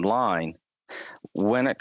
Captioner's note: speaking French